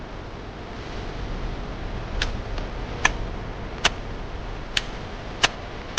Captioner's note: shovel hacking; thrilling music swells again